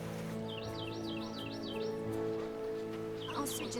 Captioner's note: birds chirping